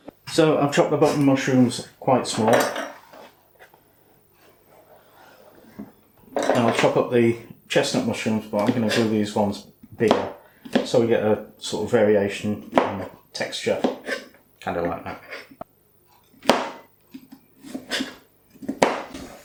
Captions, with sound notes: So I've chopped the button mushrooms quite small, and I'll chop up the chestnut mushrooms but I'm going to cut these ones bigger so we get a sort of variation in texture. Kind of like that. [ MORE MUSHROOM CHOPPING SOUNDS ]